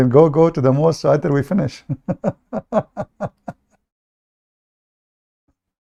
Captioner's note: Ketawa